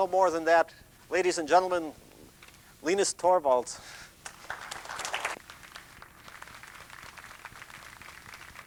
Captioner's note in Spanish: Aplausos